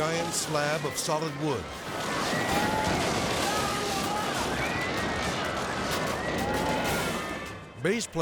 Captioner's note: people clamoring; wall crashes